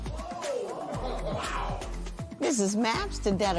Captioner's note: spectators exclaim